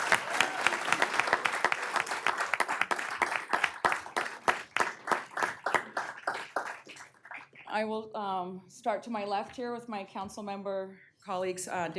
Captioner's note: applause